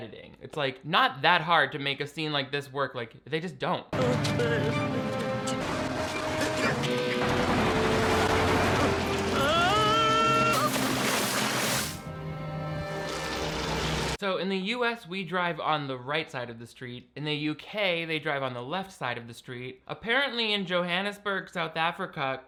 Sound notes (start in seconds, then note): 3.9 foreboding music; 9.6 Finn yelling